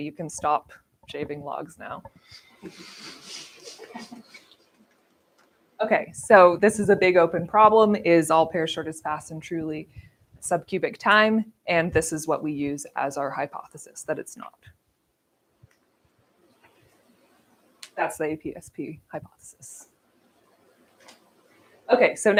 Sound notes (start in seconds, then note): 2.6 laughter